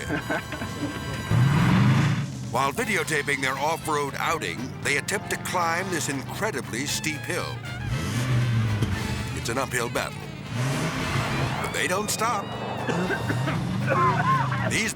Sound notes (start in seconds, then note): 0.0 person laughing; 0.6 engine revving; 7.3 engine revving; 7.3 whimsical jazz music; 12.8 person coughing